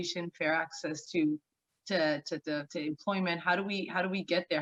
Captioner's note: stammering